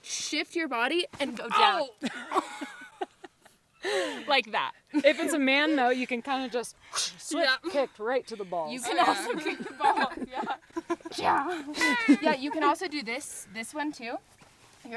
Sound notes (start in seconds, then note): 2.2 groans; 3.6 laugh